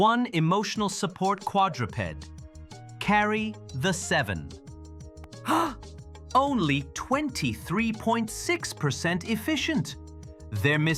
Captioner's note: gasps